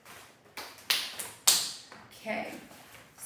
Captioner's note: claps her hands clean